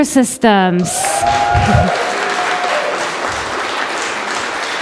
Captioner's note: audience applause